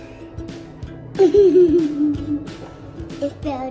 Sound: giggles

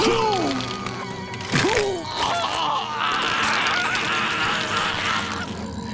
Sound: groaning

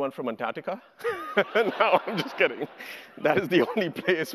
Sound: laughs

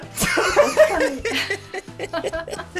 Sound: haha

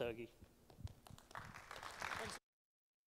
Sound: applause

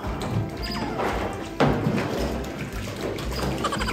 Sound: splash of water

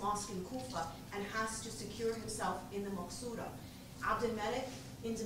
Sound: non-english speech

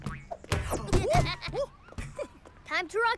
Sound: giggling

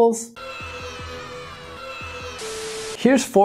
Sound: cheering

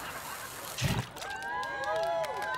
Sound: fizzling

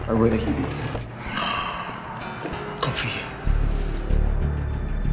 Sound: speaking foreign language

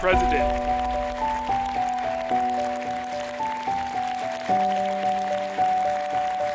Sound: crowd applauds; soft music

